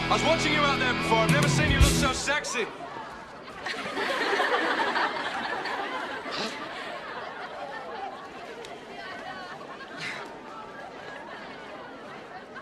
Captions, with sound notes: I was watching you out there before. I've never seen you look so sexy. (LAUGHING)